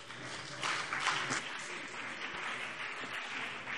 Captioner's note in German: Beifall BÜNDNIS 90/DIE GRÜNEN und CDU